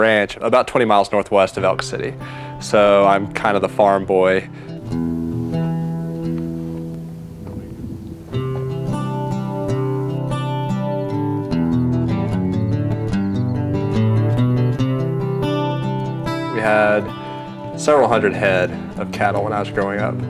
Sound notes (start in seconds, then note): 4.8 soft guitar music; 10.3 birds chirping